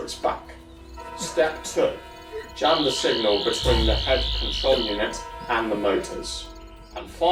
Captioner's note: buzzing and robot mummy shutting down